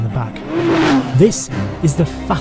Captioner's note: car engine revving